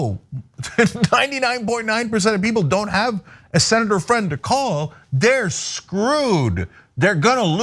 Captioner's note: laugh